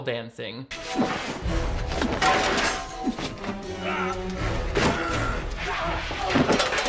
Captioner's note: grunting